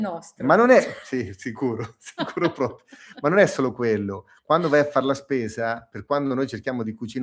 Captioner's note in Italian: risate